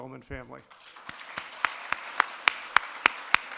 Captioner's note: clapping